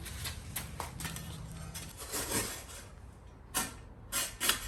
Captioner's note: scraping